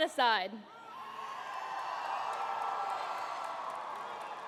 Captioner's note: cheering